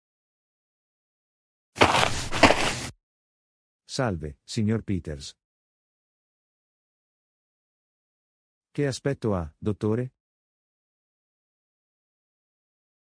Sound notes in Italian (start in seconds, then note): 1.8 FX - Footsteps - On Multiple Dirt - Walk